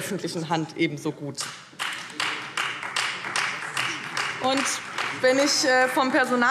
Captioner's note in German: Beifall Freie Demokraten